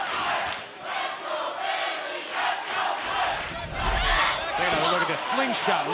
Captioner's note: fans chanting